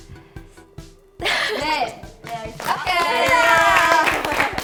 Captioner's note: Just laughing